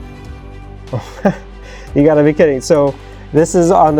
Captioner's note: chuckles